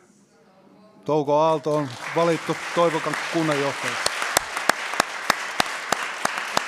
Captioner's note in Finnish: Aplodeja